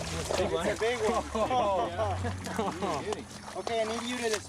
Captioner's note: laughs